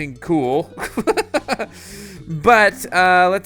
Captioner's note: laughing